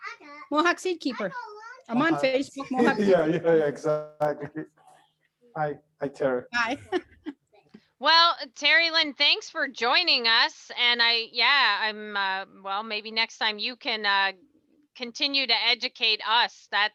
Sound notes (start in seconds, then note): 4.2 laughs